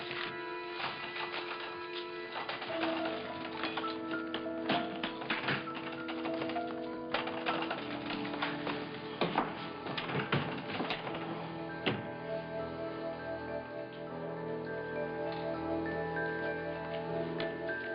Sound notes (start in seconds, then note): 1.7 door handle jiggling